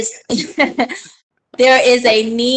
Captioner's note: chuckles